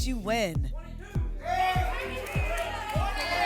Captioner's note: audience shouting numbers